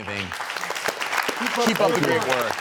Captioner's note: applause